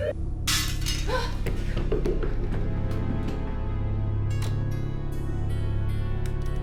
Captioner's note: glass breaking; Julia gasping